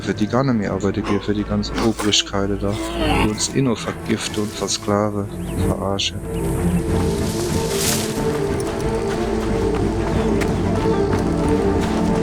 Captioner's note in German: räuspern